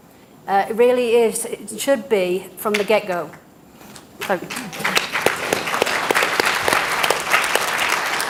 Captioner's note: applause